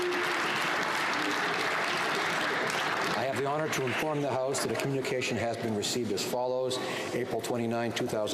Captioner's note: applause